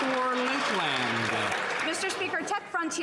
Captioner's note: some Applause